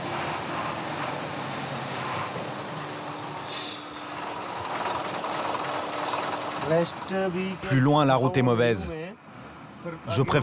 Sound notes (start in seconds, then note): 6.6 foreign language spoken